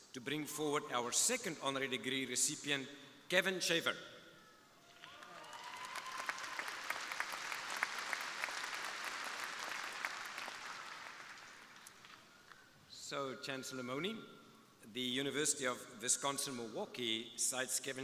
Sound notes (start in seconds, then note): 4.9 crowd applauding